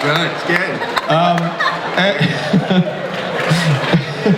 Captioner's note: laughing